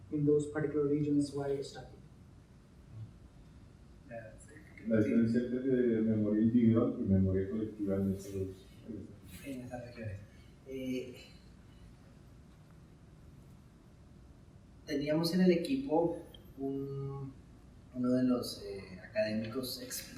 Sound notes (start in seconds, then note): 5.0 speaking in Spanish